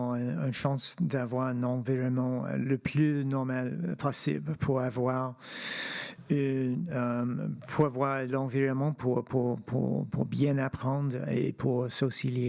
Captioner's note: speaking French